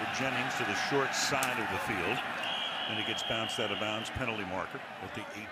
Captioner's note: pa announcement